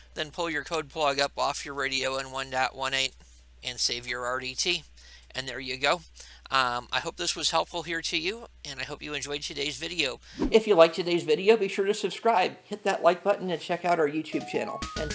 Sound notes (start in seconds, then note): 10.4 air whooshing